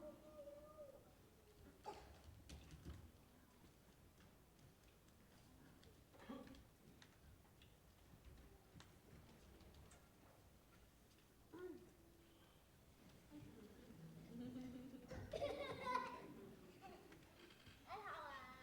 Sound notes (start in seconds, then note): 2.0 footsteps thumping softly; 13.1 audience chuckling softly